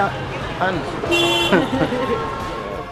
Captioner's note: honk